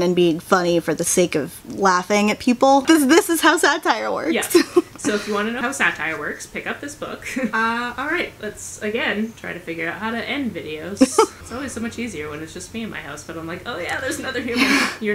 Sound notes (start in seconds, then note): 11.0 laughter